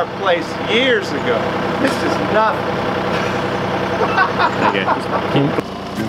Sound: laughs

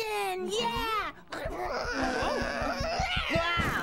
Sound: growling

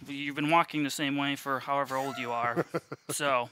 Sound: chuckles

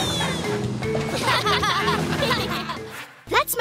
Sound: laughing

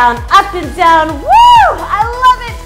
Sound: screams

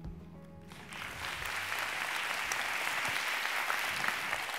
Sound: audience applauds

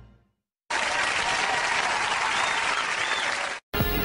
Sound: audience clapping and cheering

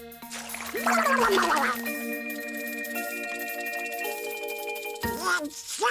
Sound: shivering

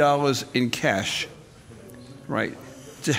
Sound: audience murmurs

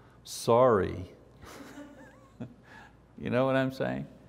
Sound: audience laughs

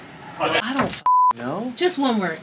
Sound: beep

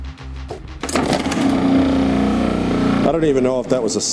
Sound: blender rumbling

